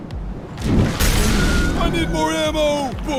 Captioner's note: screaming